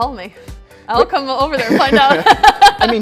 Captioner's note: laughs